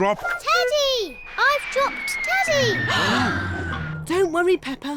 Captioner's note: all gasp